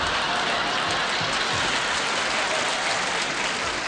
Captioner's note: applause